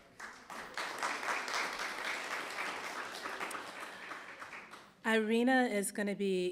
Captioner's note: applause